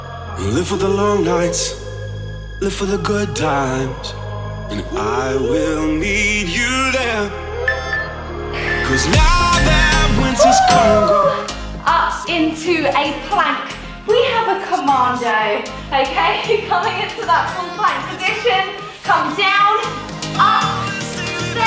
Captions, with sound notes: (upbeat music) (timer beeping) (upbeat music) Woo! Up into a plank. We have a commando plank. Coming into the full plank position. Come down, up.